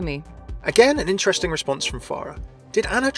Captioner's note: voiceover